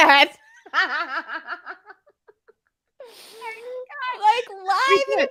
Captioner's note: laughs